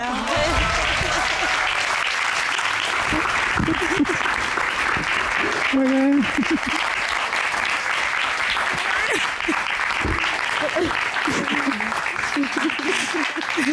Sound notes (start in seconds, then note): 0.2 audience applauds; 0.2 chuckles, sobs; 8.6 sobs; 9.9 chuckles